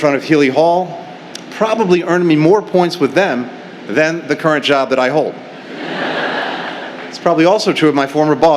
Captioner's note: laughter